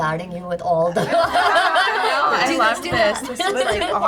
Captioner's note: all laughing